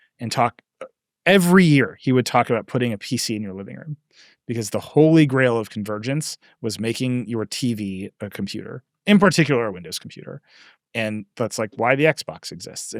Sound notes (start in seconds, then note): none